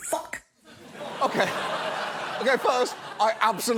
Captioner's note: studio audience laughs